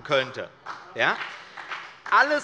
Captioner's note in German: Beifall bei der CDU und dem BÜNDNIS 90/DIE GRÜNEN